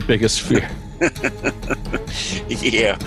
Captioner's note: laughing